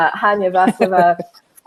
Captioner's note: chuckles